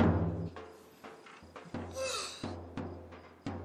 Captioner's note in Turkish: Esneme sesi